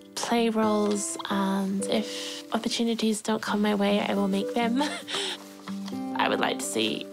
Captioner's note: chuckles